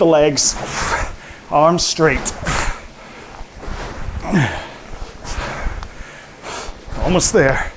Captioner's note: grunts